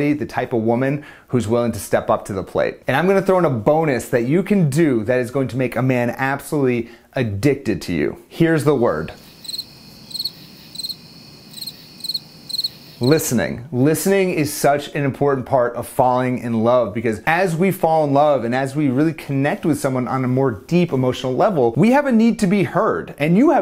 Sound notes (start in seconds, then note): 9.1 crickets chirping